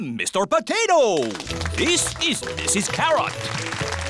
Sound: applause

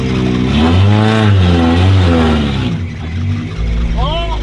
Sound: engine revving

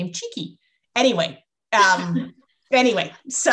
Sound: laughter

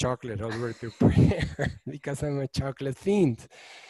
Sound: giggles

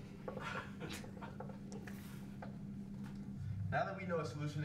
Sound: laughing

